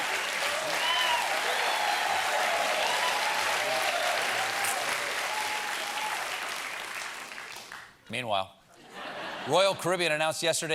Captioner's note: cheers and applause; applause